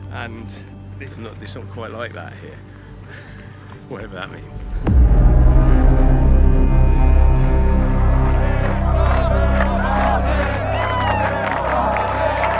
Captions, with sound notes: وە، لێرە تەواو وا نییە. هەرچەندە مانای چی بێت. (dramatic music) (crowd chants)